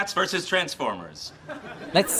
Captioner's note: REALLY weak canned laughter